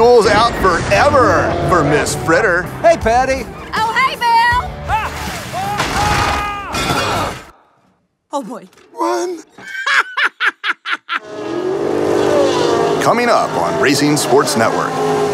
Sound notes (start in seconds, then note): 5.5 screams; 9.5 laughs